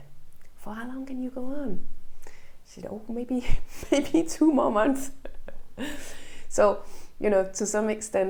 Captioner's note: laughs